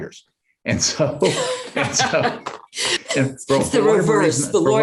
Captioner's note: laughing